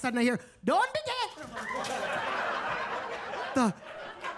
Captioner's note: attendees laughing